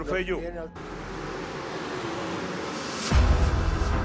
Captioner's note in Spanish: Sonido del carro